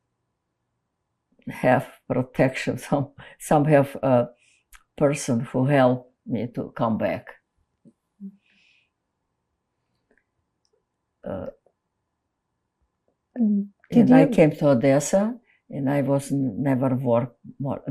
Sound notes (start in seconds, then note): 7.7 pauses 6 seconds